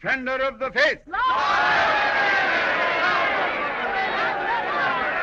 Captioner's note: جمهور يهتف